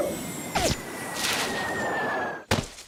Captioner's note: air whistling; thuds